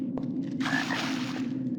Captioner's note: ribbit